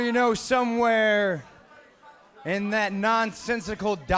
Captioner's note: speaking in foreign language